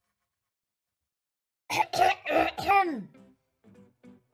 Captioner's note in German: räuspern